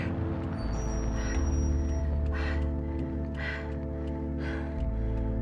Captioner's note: heavy breathing